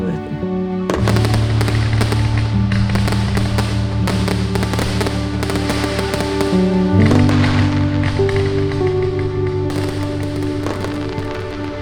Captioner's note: bright music continues; fireworks booming